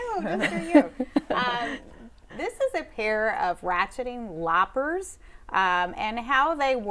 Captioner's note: laughing